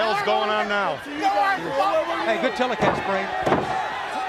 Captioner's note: crowd chatter